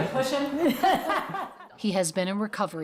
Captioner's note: all laugh